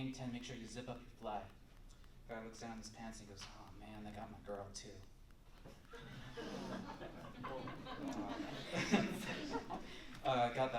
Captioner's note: laughter